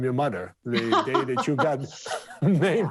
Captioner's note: Indra laughs; laughs